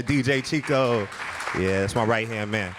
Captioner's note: audience clapping